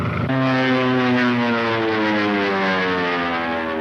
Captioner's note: engine roars